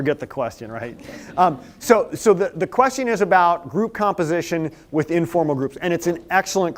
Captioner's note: laughter